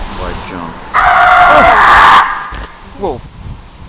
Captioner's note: screaming